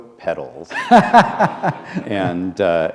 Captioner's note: laughter